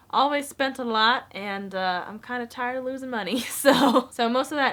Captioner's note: chuckles